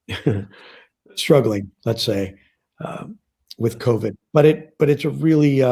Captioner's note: laughs